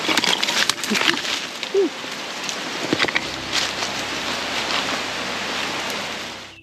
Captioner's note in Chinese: 一陣狼嚎～～～